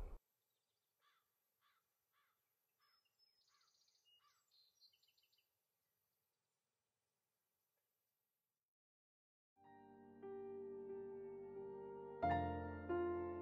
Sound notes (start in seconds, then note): 2.8 birds chirping; 9.6 soft music